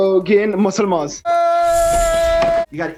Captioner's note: yelling